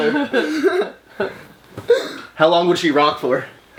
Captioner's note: laughing